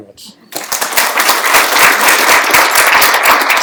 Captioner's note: applause